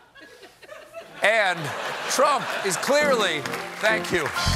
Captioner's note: laughter